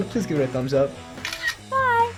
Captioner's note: camera snaps